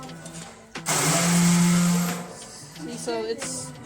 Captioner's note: drilling